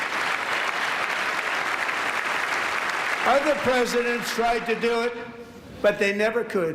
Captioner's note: applause